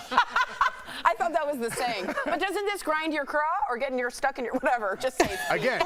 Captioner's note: laughter